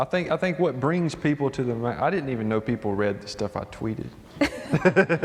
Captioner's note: laughter